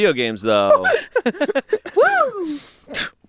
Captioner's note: everyone laughs